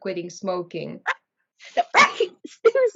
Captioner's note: dog barking